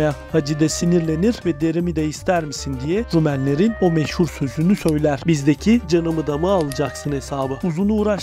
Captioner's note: Turkish